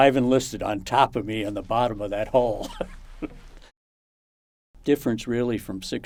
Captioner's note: laughs